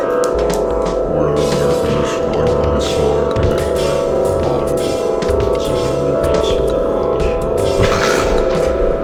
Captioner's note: snort laughing